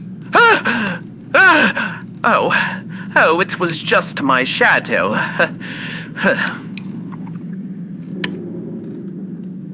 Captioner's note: gulps